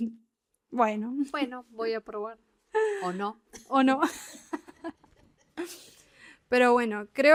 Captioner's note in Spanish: risas